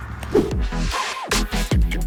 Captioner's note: image whooshes